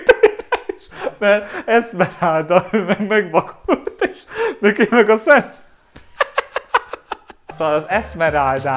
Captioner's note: laughs; laughs